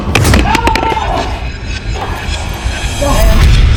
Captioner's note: Ryan yells